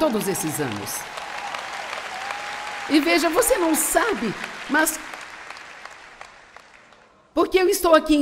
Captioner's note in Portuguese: audiência aplaude